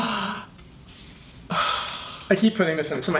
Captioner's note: gasps